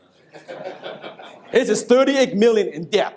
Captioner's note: audience laughs